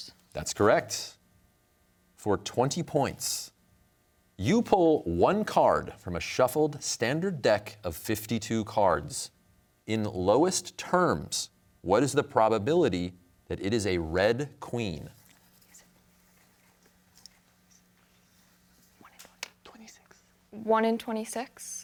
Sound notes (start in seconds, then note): 15.9 team whispering; 19.2 whispering